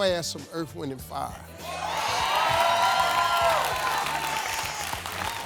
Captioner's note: audience cheers